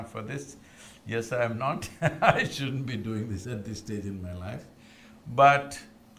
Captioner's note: laughs